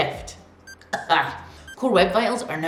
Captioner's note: coughs